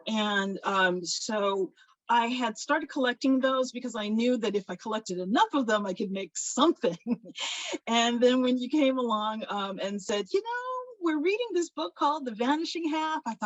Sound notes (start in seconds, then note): 7.4 laughs